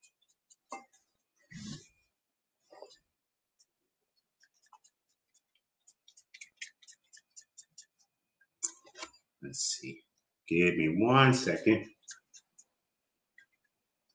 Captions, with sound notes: (water squirts) Let's see. Give me one second.